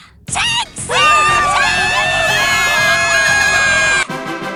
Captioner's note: cheering; screaming